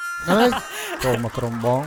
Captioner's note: laughing